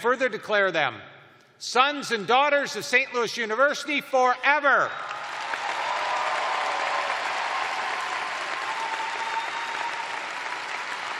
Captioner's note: cheers and applause